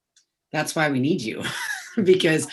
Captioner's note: laughs